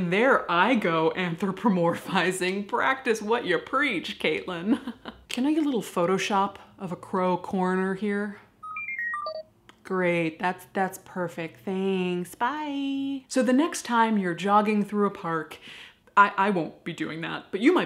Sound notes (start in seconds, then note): 4.7 forced snicker; 8.6 electronic beep boop